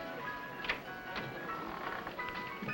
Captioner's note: door opens